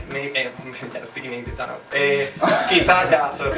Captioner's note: laughs